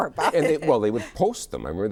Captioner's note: both laugh